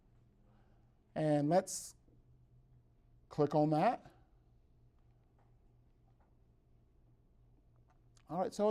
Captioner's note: brief silence